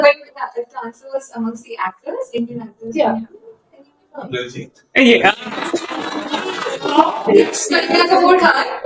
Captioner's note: laughter